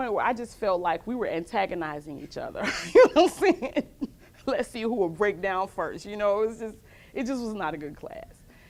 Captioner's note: laughs